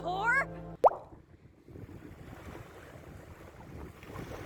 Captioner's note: pop sound effect